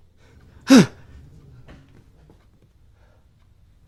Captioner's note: gasping